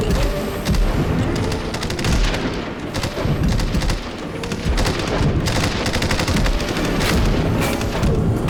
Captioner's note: gunshot